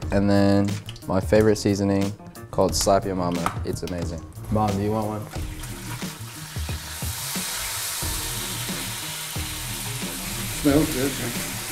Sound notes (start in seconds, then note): 4.8 oil sizzling; 8.0 upbeat music